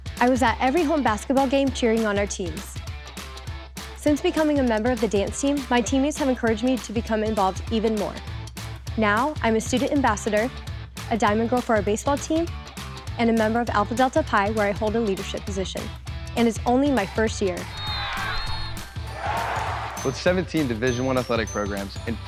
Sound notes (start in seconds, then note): 17.6 crowd cheering